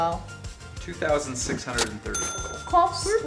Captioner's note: male Voice